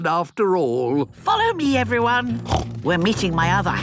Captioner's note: snorts